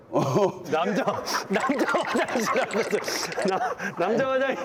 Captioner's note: laughing to death